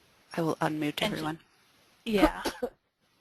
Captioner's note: voiceover